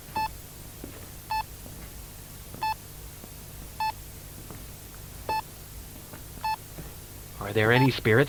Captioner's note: Bruce searches the room as his EMF meter beeps steadily